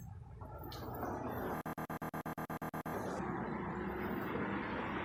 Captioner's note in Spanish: Suena un sonido distorsionado